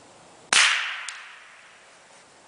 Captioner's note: gunshot